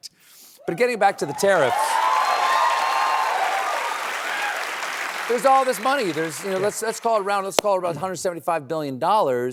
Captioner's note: cheers and applause